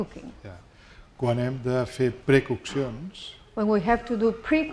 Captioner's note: speaking spanish